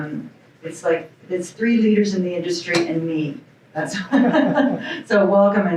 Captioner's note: laughs